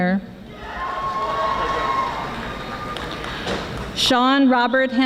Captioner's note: audience applauding